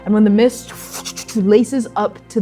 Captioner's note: whooshing